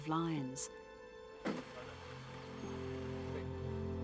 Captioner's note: animal thuds; dramatic music